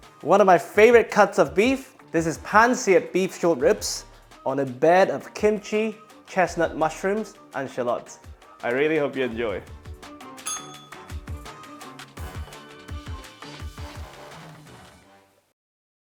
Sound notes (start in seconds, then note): 10.4 bell rings; 12.2 upbeat music